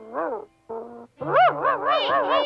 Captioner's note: Arrow barking